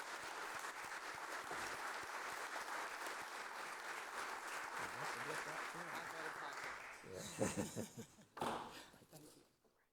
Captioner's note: applause